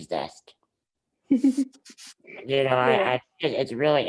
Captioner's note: laughs